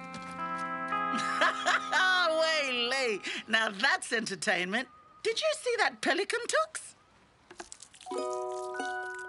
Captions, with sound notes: (laughs) Now that's entertainment. Did you see that pelican, Tuks?